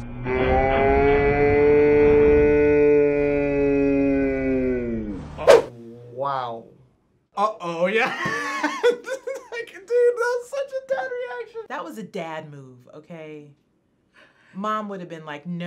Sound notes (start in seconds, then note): 8.0 laughs